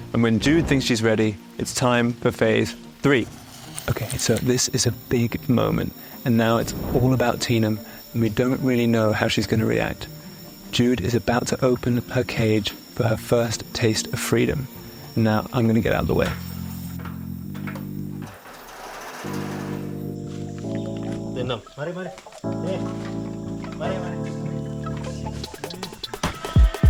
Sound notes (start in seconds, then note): 17.5 gate rattling; 18.6 gentle music; 22.2 ranger speaking in foreign language